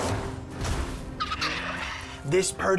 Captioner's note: squawking